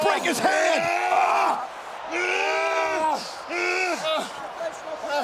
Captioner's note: wrestlers grunting